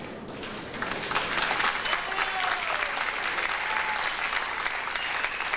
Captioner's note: audience applauding